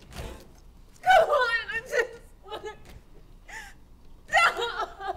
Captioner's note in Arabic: البكاء